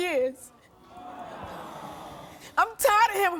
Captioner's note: audience groaning